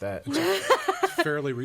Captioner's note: laughs